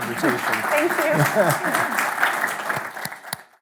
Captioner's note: applause